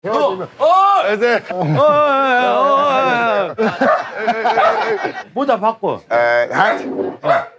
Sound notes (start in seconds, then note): 0.5 speaking Korean; 5.0 speaking Korean